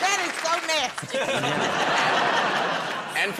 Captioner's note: laughter